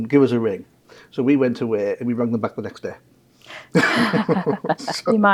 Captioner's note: laughs